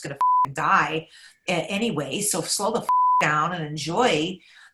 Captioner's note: beep; beep